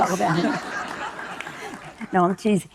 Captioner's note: audience laughing